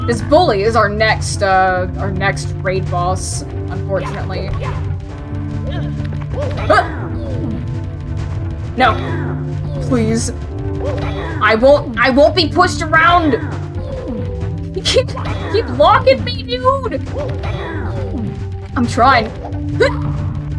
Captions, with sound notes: This bully is our next, uh, our next raid boss, unfortunately. HUAH! No! Please... I won't- I WON'T BE PUSHED AROUND! He keeps- [whimpering] He keeps locking me dude! I'm trying! Hyegh!